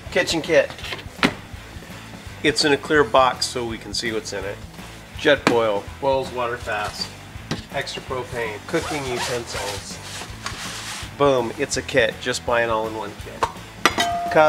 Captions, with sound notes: Kitchen kit. (thudding) It's in a clear box so we can see what's in it. Jetboil, boils water fast. Extra propane, cooking utensils. (zipping) Boom, it's a kit, just buy an all-in-one kit. (clanking)